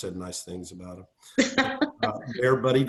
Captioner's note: laughter